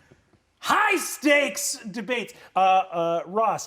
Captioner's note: yells